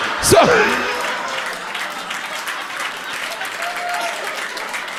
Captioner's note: audience cheering